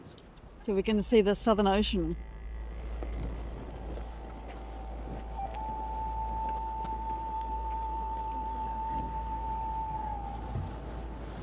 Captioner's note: people shouting; footsteps on sand and wind